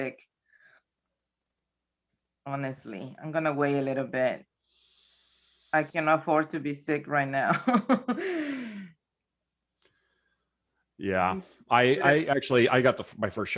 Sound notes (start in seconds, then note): 7.6 chuckles